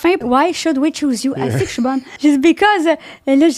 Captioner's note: in french